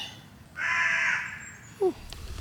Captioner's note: crow cawing loudly